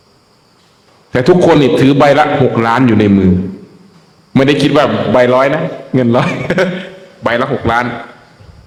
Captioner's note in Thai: เสียงหัวเราะ